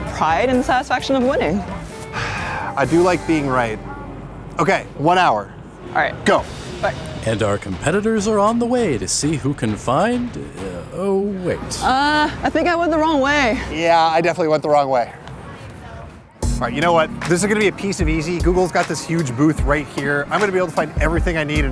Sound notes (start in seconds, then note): 2.1 sighs; 10.7 stammers